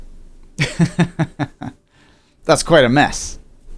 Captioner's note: laughs